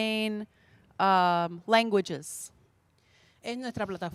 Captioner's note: Spanish language 00:36:03